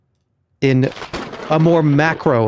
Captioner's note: thunder